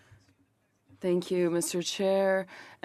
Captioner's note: speaking French